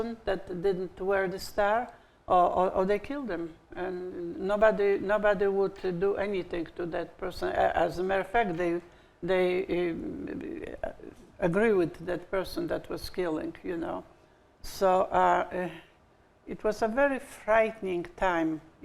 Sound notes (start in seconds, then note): none